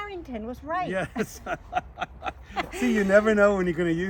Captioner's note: laughs